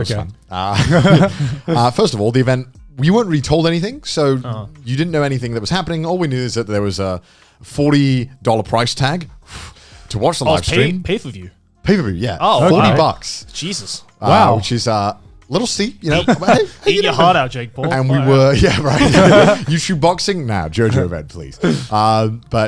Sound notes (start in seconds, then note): 9.4 exhales